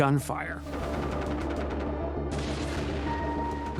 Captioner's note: rapid gunfire